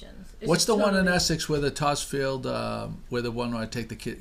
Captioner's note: voiceover